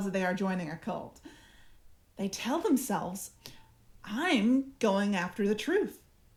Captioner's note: none